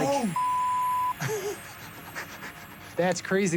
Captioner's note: laughs